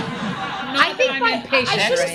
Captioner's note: audience laughs